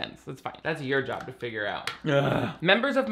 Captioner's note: grunting